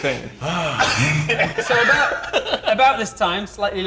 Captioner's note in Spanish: Risas